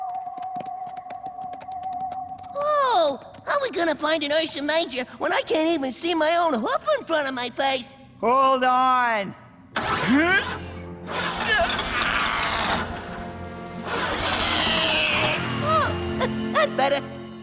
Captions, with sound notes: Whoa! How we gonna find an ursa major When I can't even see my own hoof in front of my face? Hold on. [ Straining ] [ Engine sputtering ] ohh! [ Straining ] Oh. Heh. That's better.